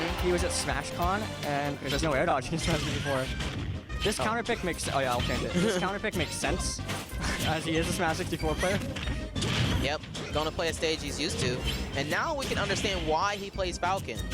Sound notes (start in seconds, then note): 8.4 laughs